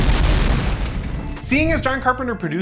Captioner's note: car exploding